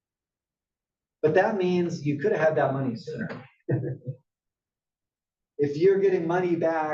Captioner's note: laugh